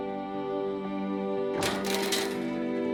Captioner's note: clanging